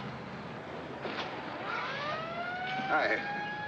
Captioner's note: siren Blaring